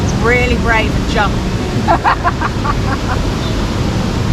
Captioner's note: laughs